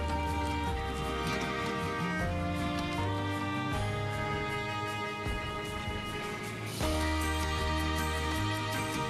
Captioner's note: suitcase wheels rolling